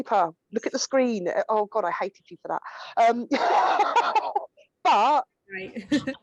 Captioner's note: laughs